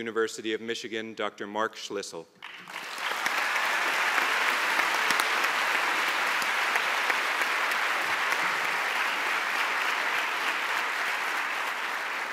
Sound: applause

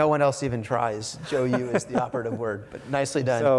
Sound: laughs

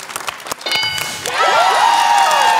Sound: bell dings; cheering

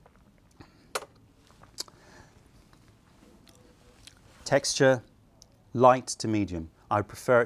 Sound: sips tea

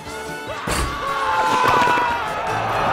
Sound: screaming

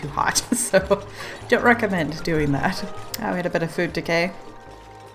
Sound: laughs

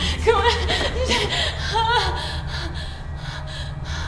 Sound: heavy breathing

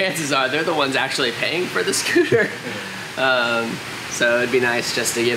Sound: laughs

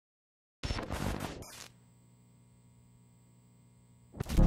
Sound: static crackling

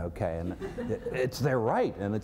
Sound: laughter

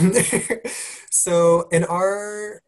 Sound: laugh

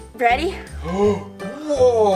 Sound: Mr. Engineering gasps

